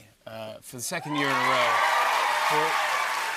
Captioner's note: cheers and applause